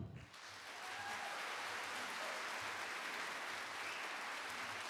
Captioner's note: audience applauding